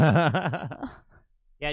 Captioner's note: laughing